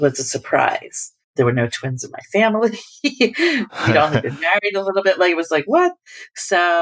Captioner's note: laughter